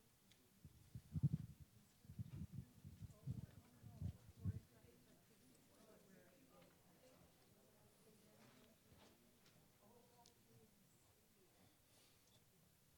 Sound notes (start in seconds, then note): 4.1 audience mumbling